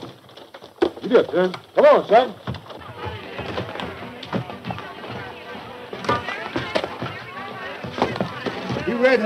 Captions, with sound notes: - Giddy up there, come on Silver. (people chattering)